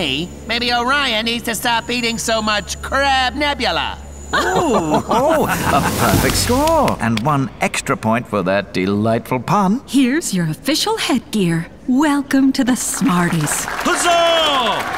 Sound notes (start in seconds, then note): 4.3 SMARTIES laugh; 13.0 applause